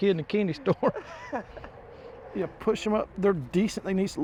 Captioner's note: laughs